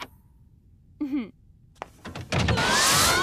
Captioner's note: doors open; screaming